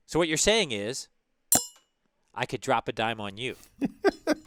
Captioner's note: laugh